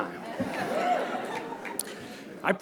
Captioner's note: laughter